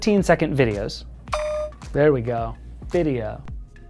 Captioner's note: pin beeping